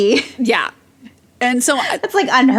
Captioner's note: laughs